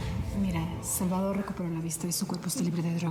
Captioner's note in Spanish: en voz baja